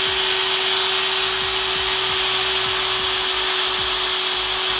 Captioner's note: drill whirring